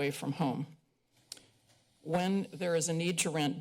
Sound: pause

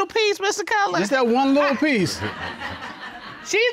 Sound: audience chuckles

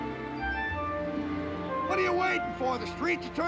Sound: horn honks

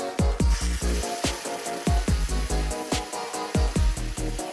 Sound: flashy music; water stream hisses

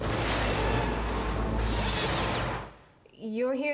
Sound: thunder crashes

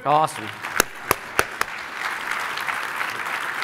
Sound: clapping

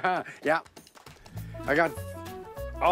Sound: laughter

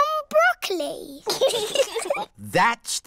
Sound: both giggle

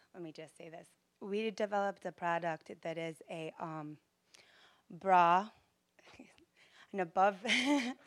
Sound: giggling

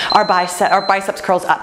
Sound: timer beeps

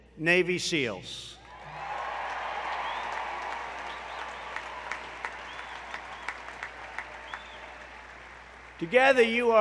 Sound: applause

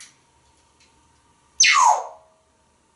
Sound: whistling

